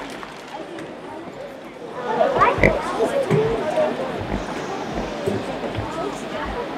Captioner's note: students murmuring indiscernibly